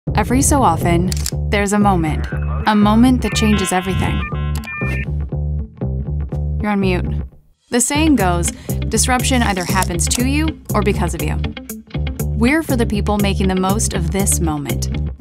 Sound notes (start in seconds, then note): 4.3 dial-up internet sounds